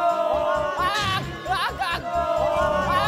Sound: scream of panic

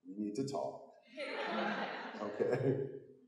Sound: audience laughing

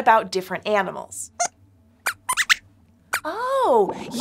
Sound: squeaks squeaks

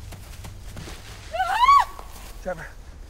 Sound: Sheila screaming

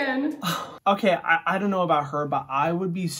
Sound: sighs

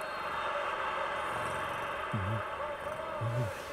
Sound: crowd excitement

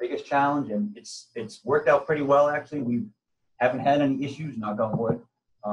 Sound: knock on wood

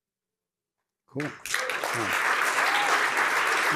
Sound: applause

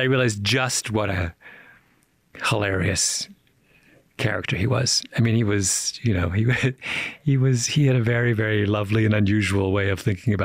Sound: chuckles

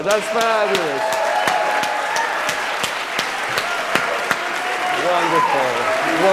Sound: audience cheering and clapping

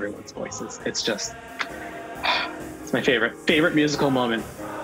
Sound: sigh

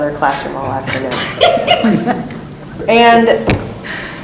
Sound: laughing

